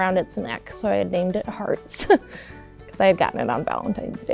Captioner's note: chuckles